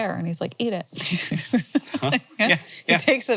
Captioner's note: laughing